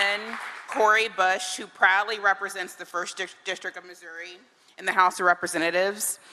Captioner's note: cheering and applause